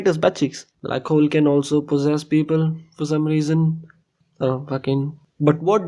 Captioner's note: murmuring